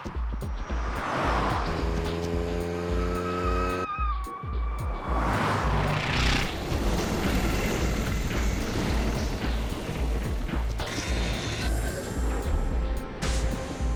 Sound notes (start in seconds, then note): 6.6 helicopter blades whirring